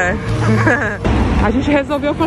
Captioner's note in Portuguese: risos